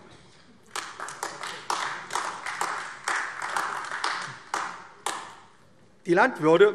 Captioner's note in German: Beifall AfD